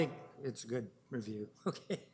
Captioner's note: laughing